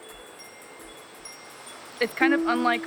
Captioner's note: chimes tinkling